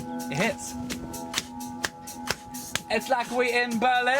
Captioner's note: claps